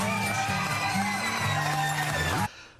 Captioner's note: surprised